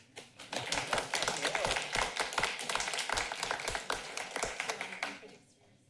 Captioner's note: applauding